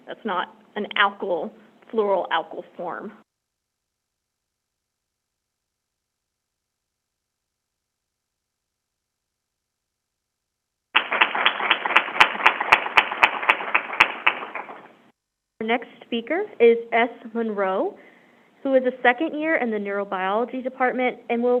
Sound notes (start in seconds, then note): 10.9 crowd applauding